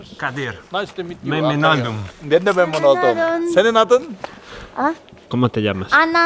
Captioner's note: Turkish